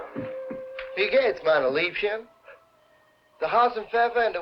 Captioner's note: speaking in a foreign language